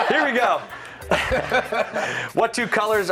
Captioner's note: laughter